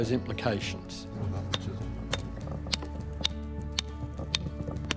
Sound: hammer clanging

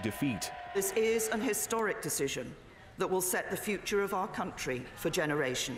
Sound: cheering

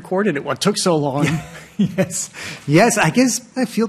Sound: laughs

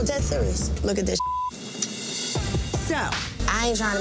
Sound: beep

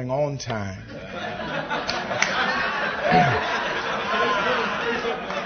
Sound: laughter

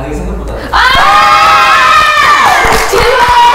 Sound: cheering

